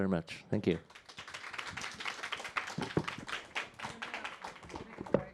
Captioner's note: audience applause